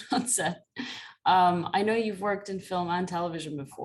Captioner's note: laughter